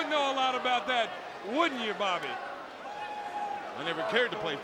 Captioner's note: crowd clamoring